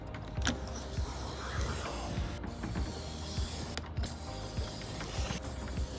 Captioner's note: blade softly cutting the Lexan